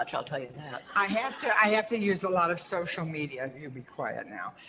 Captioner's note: audience laughter